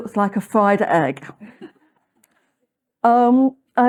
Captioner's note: laughter